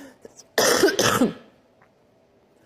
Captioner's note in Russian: мария ситтель кашляет